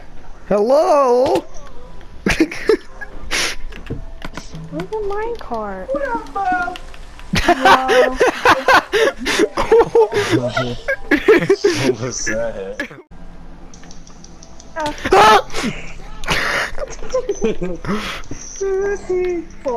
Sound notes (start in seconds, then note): 2.2 laughter; 7.3 laughter; 15.1 screams; 16.3 laughter